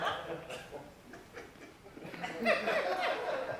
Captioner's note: light laughter